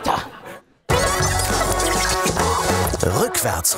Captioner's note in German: Verzerrte Geräusche